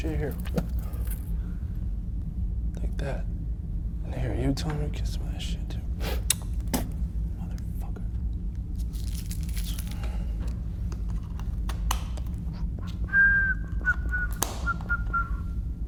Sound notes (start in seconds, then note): 6.0 Jack spitting; 12.9 Jack whistling